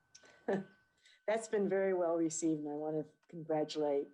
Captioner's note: chuckles